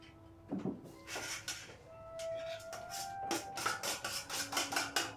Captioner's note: dishes clattering